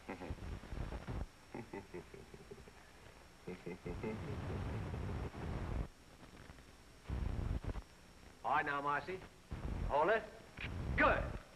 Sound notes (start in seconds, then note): 1.5 laughing